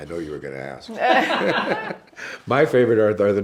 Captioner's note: laughs